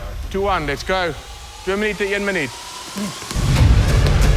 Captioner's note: speaking in foreign language; dramatic music